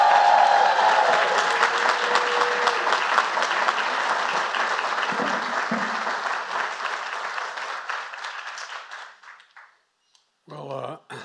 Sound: applause

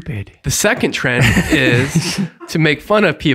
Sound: all laughing

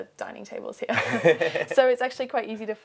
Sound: laughs

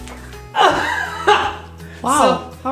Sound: laugh

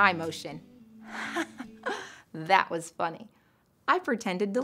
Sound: laughs

